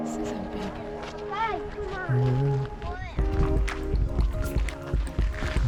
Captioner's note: children chattering